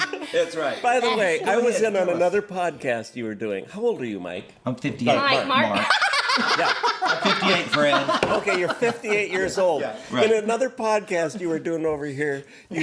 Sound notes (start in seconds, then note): 5.8 laughing